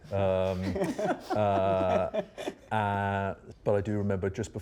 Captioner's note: laughter